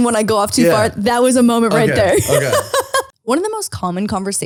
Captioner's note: laughs